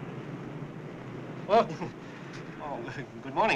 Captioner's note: chuckles